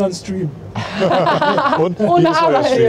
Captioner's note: laugh